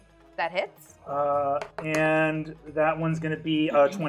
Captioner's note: die rolling